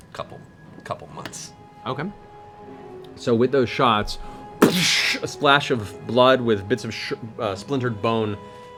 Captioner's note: gunshot